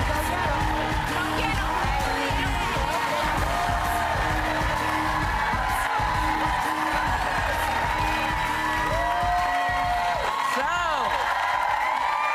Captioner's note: applause